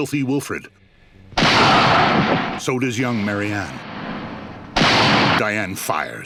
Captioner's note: gunshots